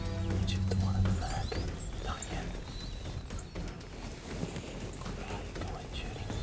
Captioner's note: whispering